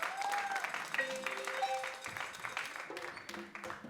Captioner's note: audience claps